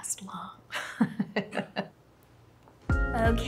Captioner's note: woman laughing